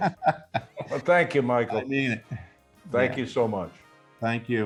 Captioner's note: laughing